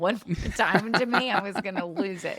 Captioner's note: laughs